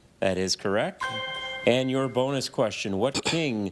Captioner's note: chime resonating